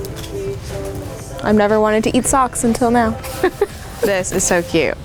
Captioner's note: laughs